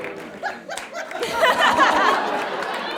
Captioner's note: applauds; group laughs heartily